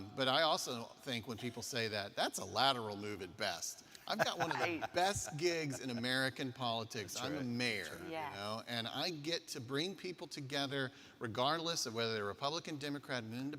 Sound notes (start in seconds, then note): 4.1 laughing